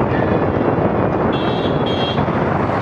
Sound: honk honk

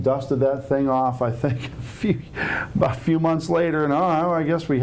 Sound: laughing

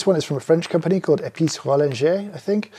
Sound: speaking in French

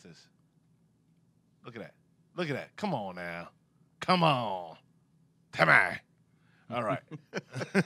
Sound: laughing

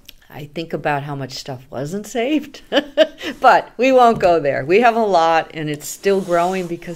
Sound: laughs

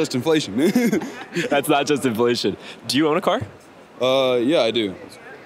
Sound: laughing

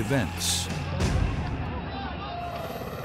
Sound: shouting; guns firing

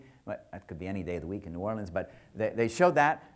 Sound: none

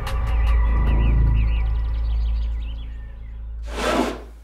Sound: birds singing

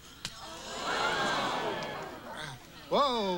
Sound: audience gasps

